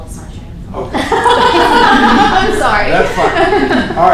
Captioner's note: laughter